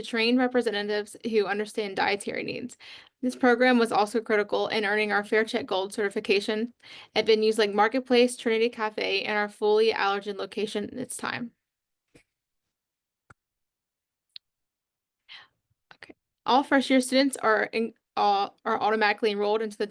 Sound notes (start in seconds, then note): 11.8 pause